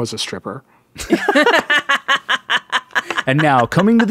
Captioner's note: laughing